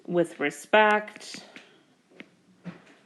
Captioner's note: keyboard Tapping